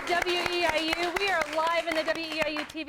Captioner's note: applause